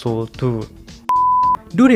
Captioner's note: beep